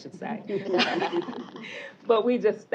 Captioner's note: laughter